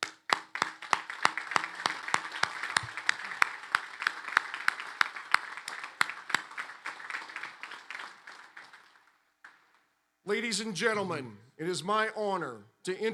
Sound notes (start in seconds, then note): 0.0 applause